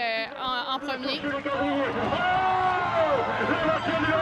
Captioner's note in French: cris de la foule